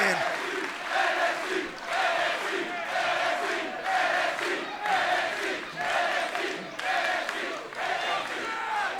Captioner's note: fans chanting